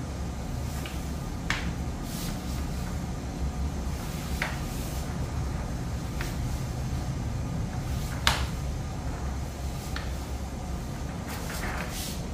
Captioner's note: PET film noise